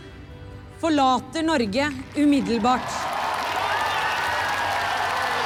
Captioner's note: crowd cheering